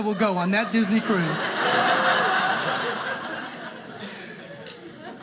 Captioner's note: audience laughing